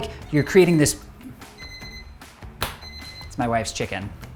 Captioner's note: over timer beeps